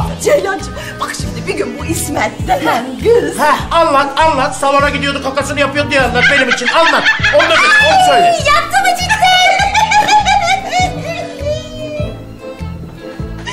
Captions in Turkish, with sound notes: Ceylan'cığım, bak şimdi bir gün bu İsmet denilen kız... Heh anlat, anlat. Salona gidiyordu kakasını yapıyordu diye anlat, benim için anlat. Ay yaptı mı cidden? (gülme sesi)